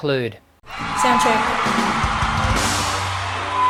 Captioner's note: applause